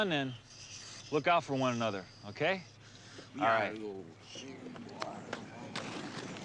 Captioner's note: crowd murmuring; paddles rustling